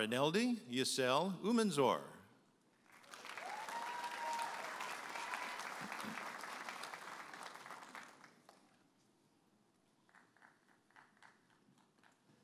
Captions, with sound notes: Marineldi Yissel Umanzor. (audience applauding and cheering)